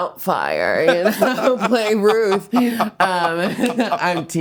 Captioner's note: laughing